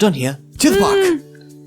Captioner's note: happy noise